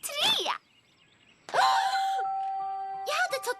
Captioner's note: gasp